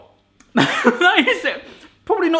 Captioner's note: laughs